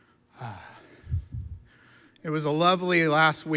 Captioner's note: sighs